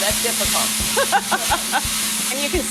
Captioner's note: laughing